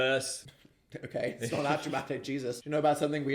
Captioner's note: chuckling